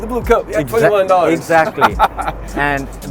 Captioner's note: laughing